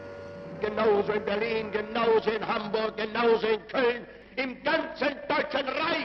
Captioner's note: Hitler speaks foreign language